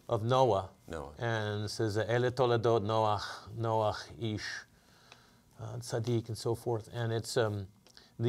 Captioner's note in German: spricht Hebräisch